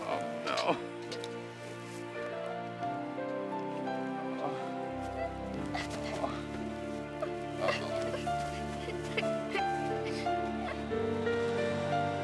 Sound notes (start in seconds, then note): 0.0 sobbing; 5.4 Rose crying